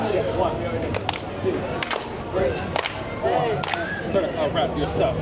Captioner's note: people clapping